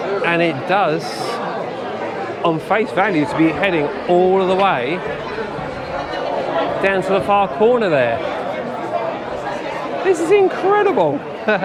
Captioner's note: laughter